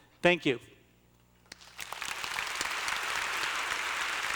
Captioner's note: applause